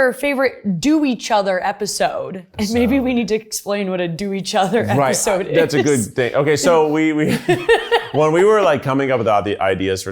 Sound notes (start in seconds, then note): 7.2 both laugh genuinely